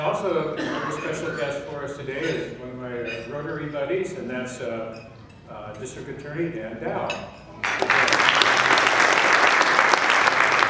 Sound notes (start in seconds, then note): 7.6 applause